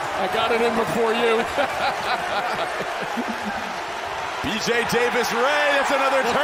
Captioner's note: laughter